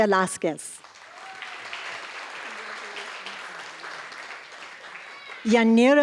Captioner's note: applause